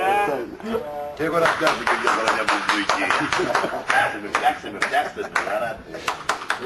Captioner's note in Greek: χειροκρότημα